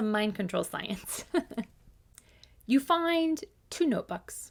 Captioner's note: laughs